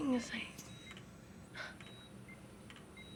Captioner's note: sighs; scoffs